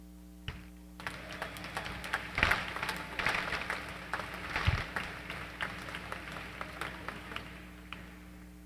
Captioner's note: applause